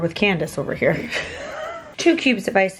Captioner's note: laughing